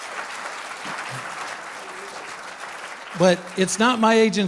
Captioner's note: applause